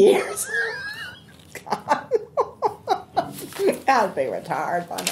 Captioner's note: laughing